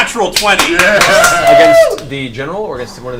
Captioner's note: all cheer